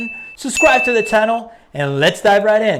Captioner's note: notification sounds